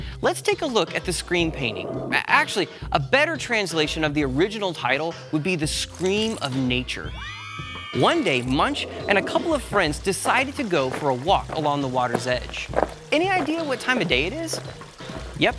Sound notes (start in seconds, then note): 7.0 scream